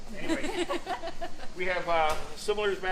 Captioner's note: laughing